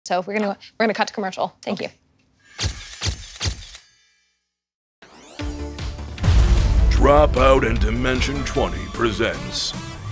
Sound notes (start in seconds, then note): 2.6 logo clicking; 5.1 upbeat electronic music; 6.2 booming